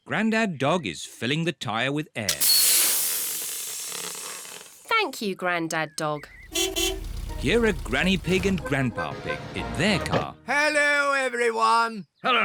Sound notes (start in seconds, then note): 2.3 air hissing; 6.4 horn beeps